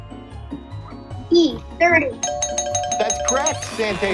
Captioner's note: bell chiming